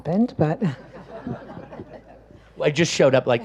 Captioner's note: audience laughs